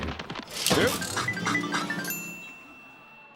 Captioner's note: chimes